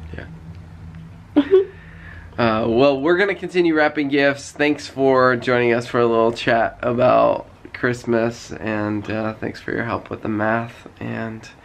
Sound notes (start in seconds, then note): 1.3 giggles